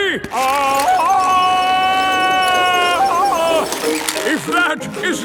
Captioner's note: yelling